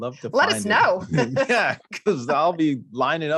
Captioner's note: chuckles